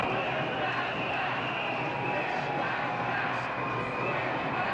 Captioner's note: whistles, chanting